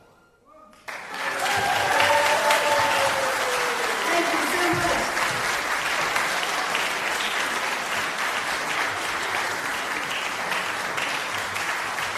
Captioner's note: applause